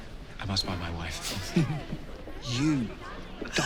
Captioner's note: Lady Danbury chuckling